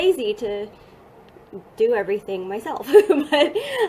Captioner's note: laughing